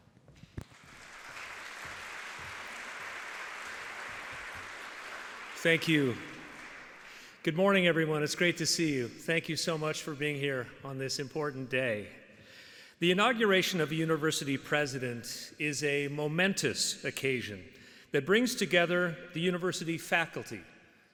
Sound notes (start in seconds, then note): 3.7 audience applauding